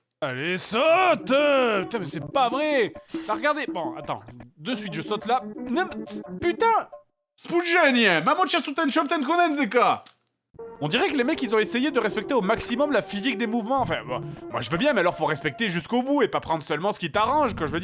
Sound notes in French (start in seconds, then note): 7.6 baragouine dans une langue slave